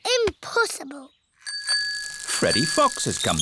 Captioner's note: bicycle bell rings